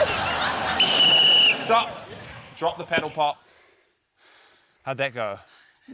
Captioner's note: laughter; whistle trills